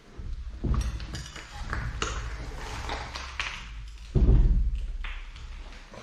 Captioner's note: noise of glass